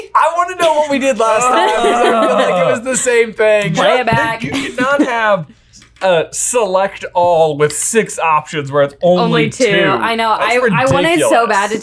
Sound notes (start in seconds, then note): 3.7 chuckles